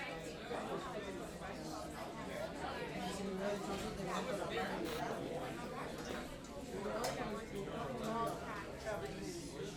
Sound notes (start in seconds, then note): 4.6 TV channel change